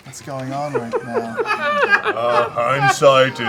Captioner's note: laughter